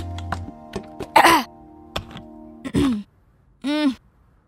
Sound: clears throat

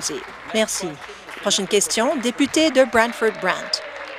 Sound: applause

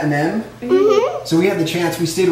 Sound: kids hum agreeably

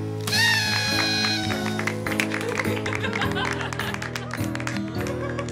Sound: party horn, laughter, applause

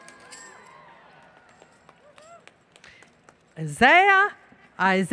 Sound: applause, Cheering

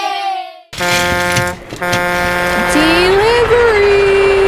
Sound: horn honking

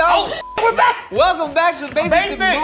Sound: beep

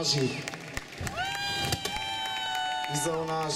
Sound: извикувањето продолжува

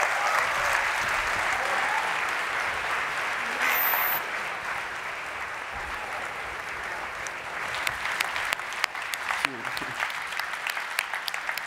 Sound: applause

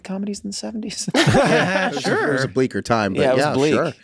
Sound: laughs

